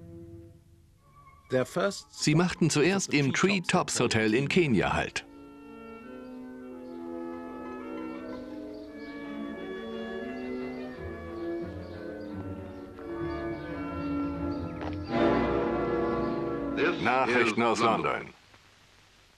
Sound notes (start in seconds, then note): 5.6 birds chirping; 5.6 peaceful music; 15.1 dramatic music